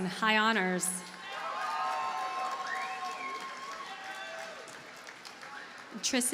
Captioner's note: audience cheers and applauds